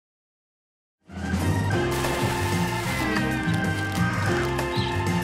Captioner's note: static crackling